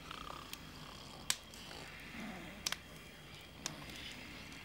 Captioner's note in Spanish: ronquidos